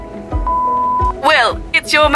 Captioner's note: phone beeping